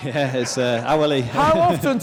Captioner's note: laughs